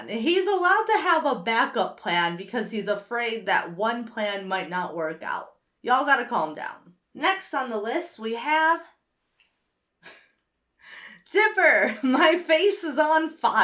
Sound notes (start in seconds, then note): 10.0 chuckles